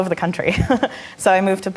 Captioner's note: laughing